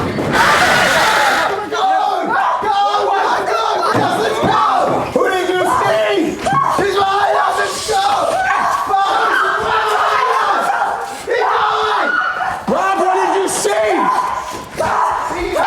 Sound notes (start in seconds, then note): 0.3 woman screaming; 5.6 everyone shouting; 9.8 everyone screaming